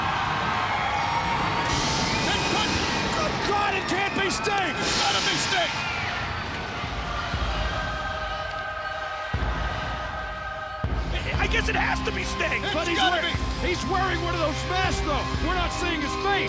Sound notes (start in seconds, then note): 0.0 thunder rolling; 8.3 ominous music begins